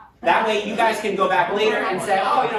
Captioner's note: none